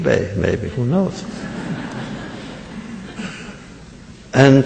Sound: laughter

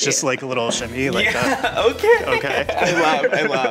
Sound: laughs

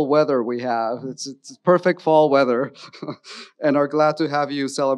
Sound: chuckles

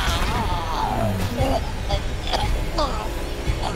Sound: choking

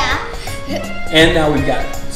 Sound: giggles

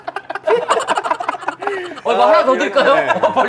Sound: laughing

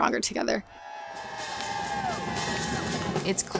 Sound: people cheering; marching band playing

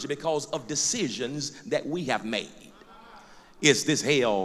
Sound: loud crowd agreement

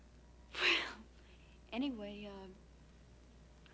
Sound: sigh

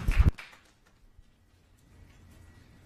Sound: applause

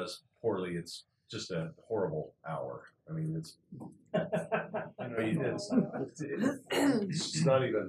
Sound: laugh

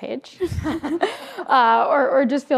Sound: group laughs

